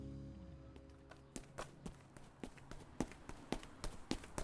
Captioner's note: footsteps